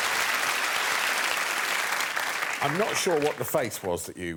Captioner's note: applause